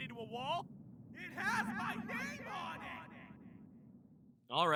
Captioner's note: echoing